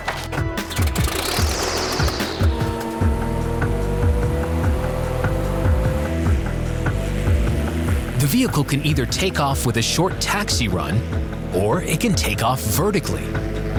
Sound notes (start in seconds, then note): 0.8 jet engine roaring